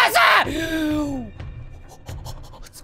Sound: inhales

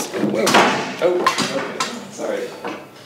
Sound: objects crashing

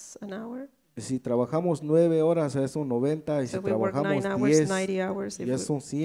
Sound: speaks in foreign language

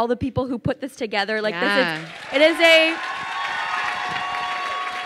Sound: crowd cheers and applauds

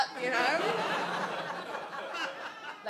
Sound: audience laughs

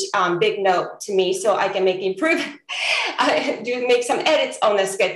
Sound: laughs

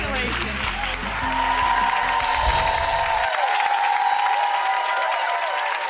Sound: audience applauding

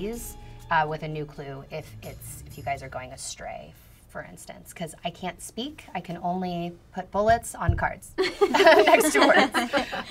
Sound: laughter

